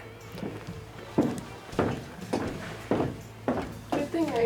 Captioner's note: footsteps clunking on floor